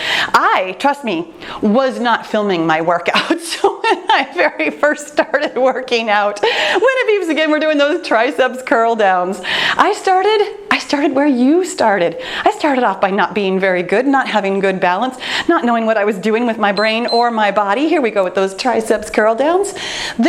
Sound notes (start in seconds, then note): 16.7 timer beeps